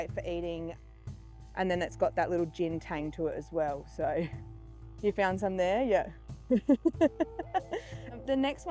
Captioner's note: laughing